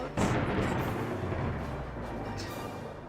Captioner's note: thunderclap